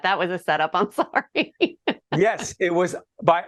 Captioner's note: laughing